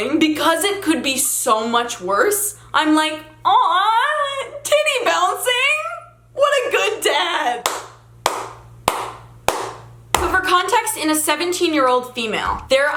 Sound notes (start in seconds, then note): 8.2 claps